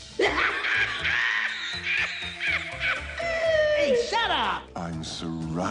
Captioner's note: Ed laughs hysterically